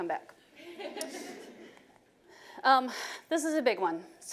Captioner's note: audience chuckling